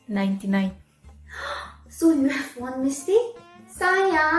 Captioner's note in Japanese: ガスプ